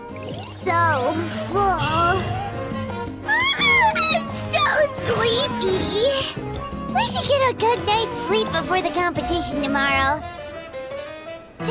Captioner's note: yawn